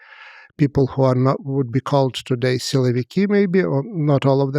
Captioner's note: speaks foreign language